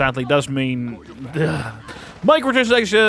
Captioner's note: shudder